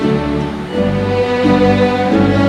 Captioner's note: none